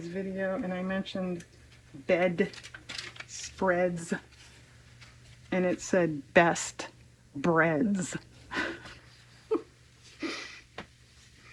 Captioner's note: laughs